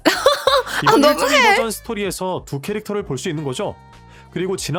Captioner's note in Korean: 웃음